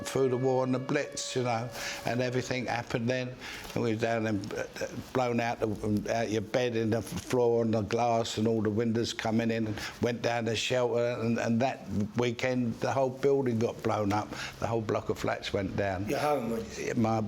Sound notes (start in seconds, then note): 3.2 world War 2 Raid Sirens fade